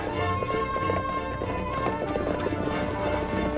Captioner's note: hooves clop